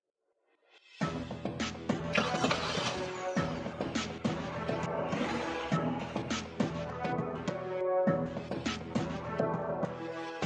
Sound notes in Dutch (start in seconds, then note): 0.9 levendige muziek; 2.1 startende motor